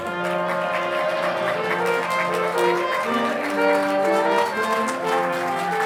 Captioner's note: audience applauding